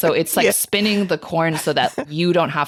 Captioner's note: chuckling